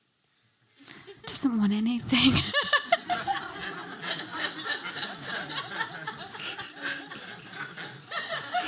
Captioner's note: laughter